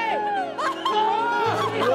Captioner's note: Laughing